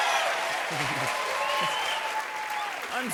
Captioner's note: cheers and applause